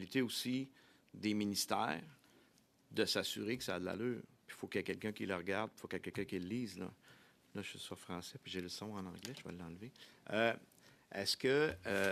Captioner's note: speaking French